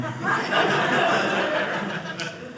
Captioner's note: audience laughing